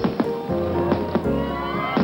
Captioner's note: cracking, popping; crowd cheering